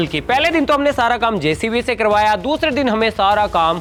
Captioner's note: none